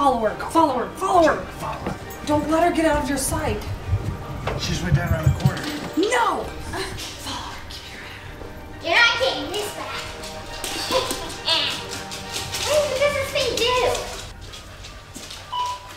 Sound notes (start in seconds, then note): 10.6 evil laughing